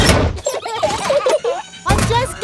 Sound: children giggling

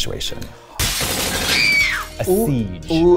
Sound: screams

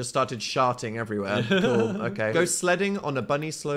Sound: laughs

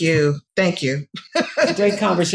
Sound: laughs

